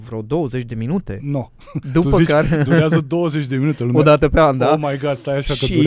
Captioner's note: laughter